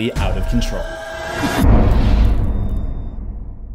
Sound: impact

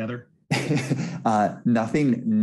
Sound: laughs

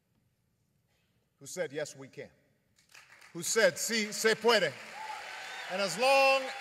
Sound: applause

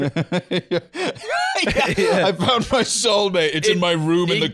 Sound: laughing

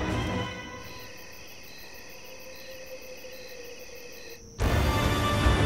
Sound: crickets chirping; tense music

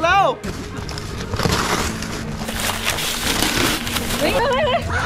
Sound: paper being torn

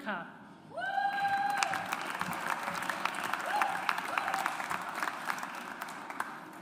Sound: audience applauds

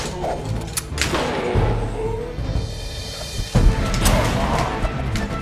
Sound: gunshot blasts

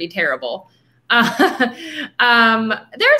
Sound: laughing

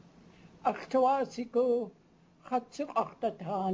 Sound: speaking tlingit

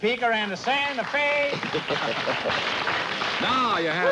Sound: applause

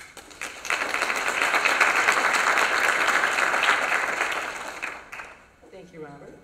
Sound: applause

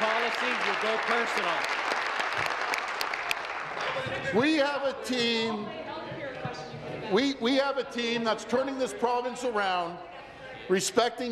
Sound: applause

